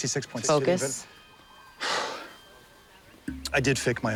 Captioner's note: exhales